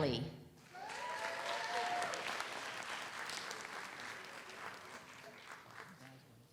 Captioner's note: audience cheers; audience applauds